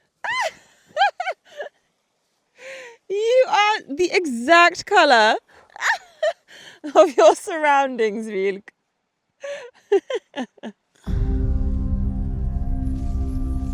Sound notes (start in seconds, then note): 0.3 laughs; 5.7 laughs; 11.0 dramatic music